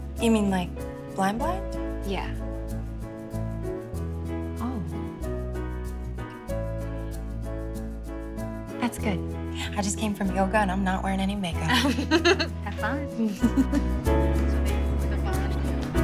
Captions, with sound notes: You mean, like, blind blind? Yeah. Oh. That's good. I just came from yoga and I'm not wearin' any makeup. [laughs] Have fun. [chattering]